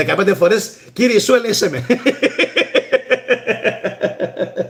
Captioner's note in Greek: γέλια